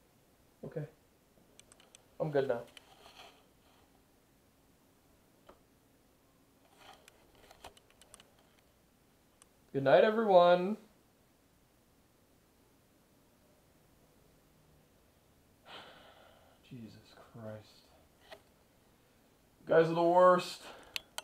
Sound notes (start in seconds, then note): 15.6 Richard Sighs